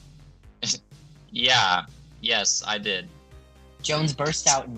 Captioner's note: sarcastically